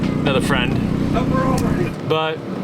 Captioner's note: friend shouts in the background